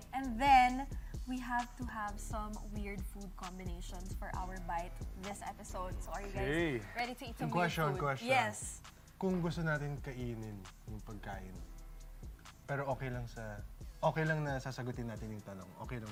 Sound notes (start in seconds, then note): none